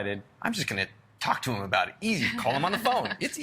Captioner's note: laughs